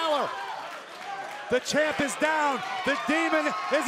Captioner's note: crowd cheering